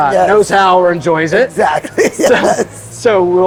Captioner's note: laughing